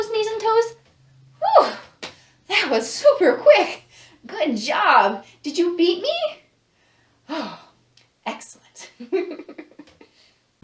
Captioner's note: sighs; laughs